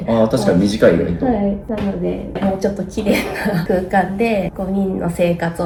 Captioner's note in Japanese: 笑い